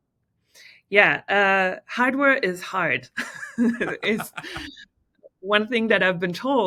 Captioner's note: laughing